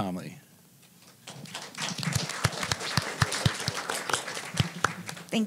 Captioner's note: applause